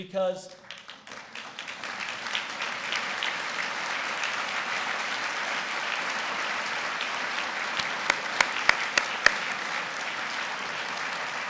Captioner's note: applause